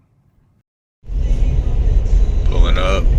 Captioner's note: radio